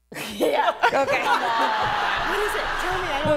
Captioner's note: laughing